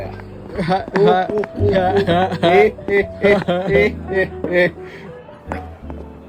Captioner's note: laughing